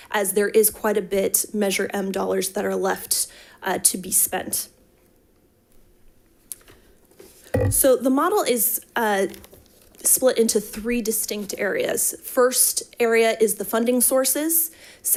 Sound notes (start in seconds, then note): none